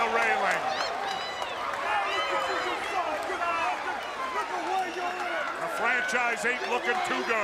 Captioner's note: crowd chatter